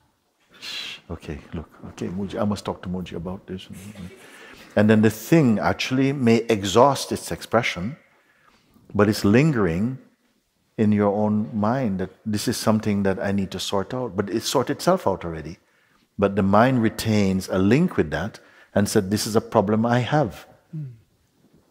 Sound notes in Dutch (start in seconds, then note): 3.7 Zacht gelach